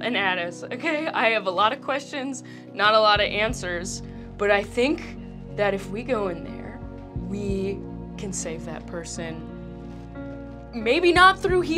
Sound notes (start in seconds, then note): none